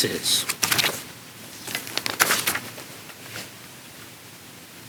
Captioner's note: papers rustling